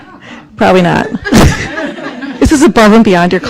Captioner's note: students laugh